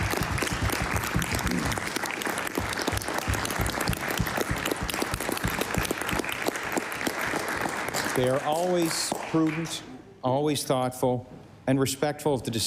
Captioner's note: applause